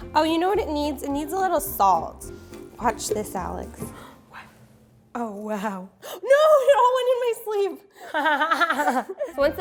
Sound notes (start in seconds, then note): 6.6 gasps; 8.0 laughing